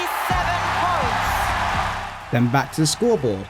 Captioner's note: applause